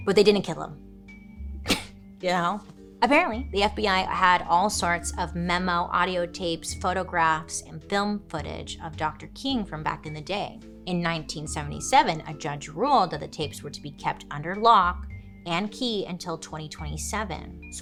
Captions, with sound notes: But they didn't kill him. (laughs) You know? Apparently, the FBI had all sorts of memo, audio tapes, photographs, and film footage of Dr. King from back in the day. In 1977, a judge ruled that the tapes were to be kept under lock and key until 2027.